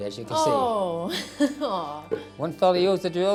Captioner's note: chuckling